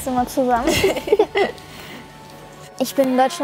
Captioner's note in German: Sie lachen